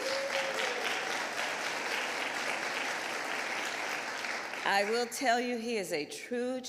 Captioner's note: applause